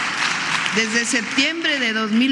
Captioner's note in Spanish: aplausos